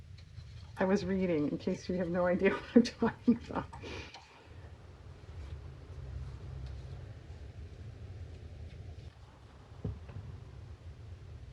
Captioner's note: laughs